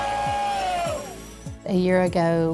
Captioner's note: cheering